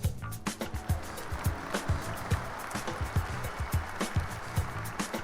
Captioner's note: cheers, applause